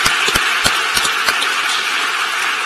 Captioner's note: applause